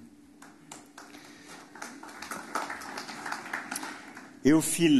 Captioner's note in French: Applaudissements